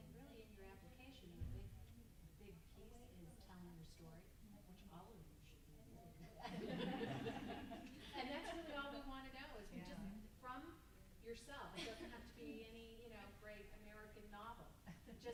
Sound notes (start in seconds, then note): 6.3 group laughs